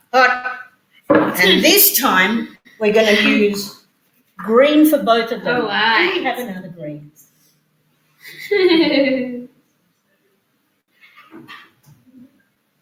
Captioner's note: background noise. laughs